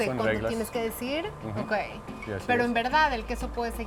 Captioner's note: speaking Spanish; both speaking Spanish